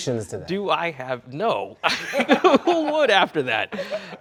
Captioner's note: both laughing